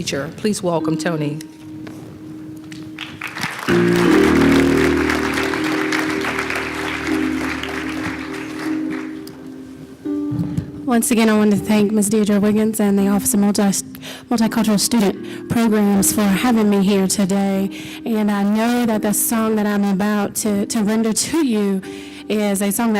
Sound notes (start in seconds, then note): 1.3 applause